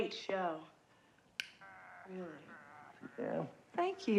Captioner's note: pops gum